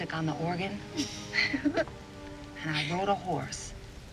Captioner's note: laughs